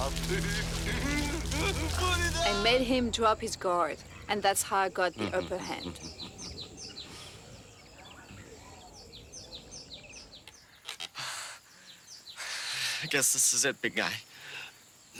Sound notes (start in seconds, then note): 0.8 laughing manically; 5.2 Simon chuckles